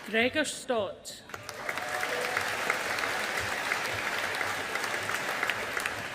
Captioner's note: audience applauding